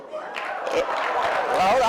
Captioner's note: cheering